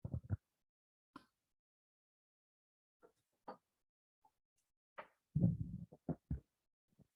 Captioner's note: microphone Interference